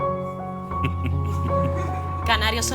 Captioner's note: laughs